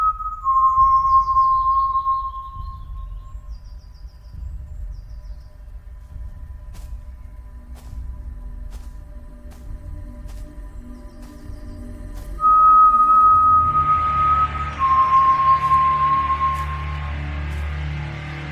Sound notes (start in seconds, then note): 3.4 birds chirping; 14.8 tense foreboding music